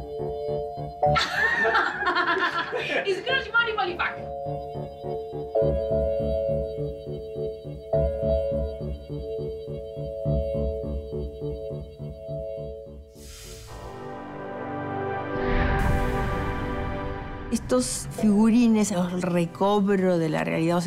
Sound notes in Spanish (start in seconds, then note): 3.0 Habla en idioma extranjero; 5.6 Música suave